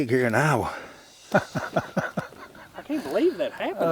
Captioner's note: chuckling